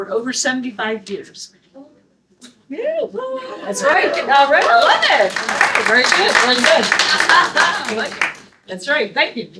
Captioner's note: audience: Woo-oo!